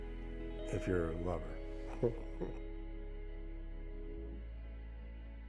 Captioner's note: laughs